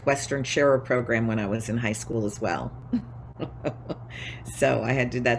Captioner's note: laughs